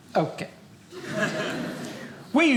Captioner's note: audience laughing